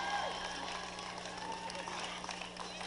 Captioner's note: applause